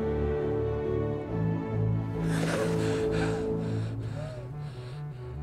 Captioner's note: gasping